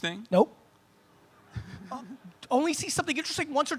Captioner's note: audience laughs